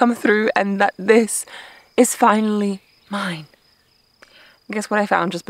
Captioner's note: crickets chirping